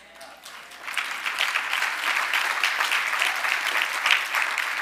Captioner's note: audience applauding